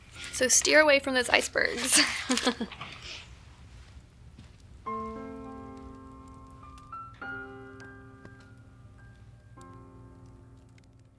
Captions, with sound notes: - So steer away from those icebergs. (chuckles) (gentle piano music)